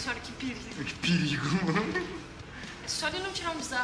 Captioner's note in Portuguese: Risadas